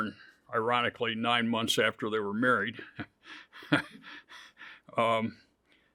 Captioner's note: laughs